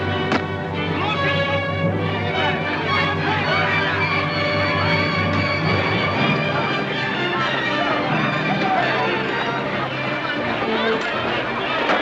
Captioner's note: dramatic music; commotion